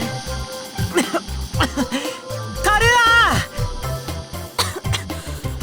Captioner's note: cough